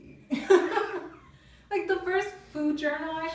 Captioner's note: laughing